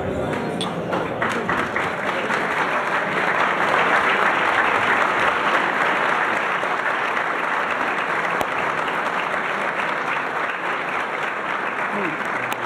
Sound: applause

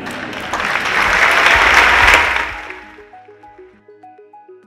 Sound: audience clapping; audience laughing

